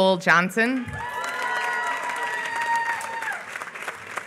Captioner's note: applause